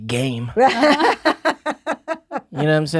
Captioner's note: laughs